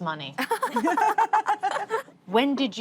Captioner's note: laughter